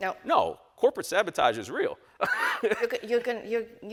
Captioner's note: laughs